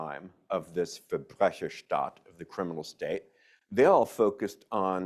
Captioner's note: speaks in foreign language